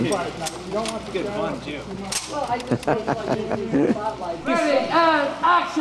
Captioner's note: Duke dry fires, Kirk laughs